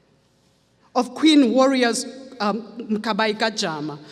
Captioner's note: speaks foreign language